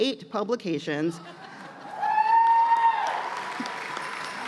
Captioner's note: cheers and applause